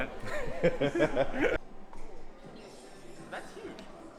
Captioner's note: laughing